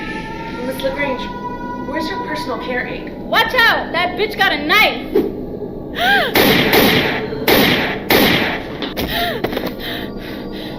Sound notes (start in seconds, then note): 6.3 gunshots